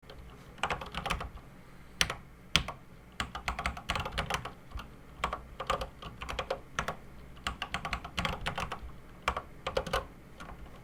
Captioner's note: typing on a C64 keyboard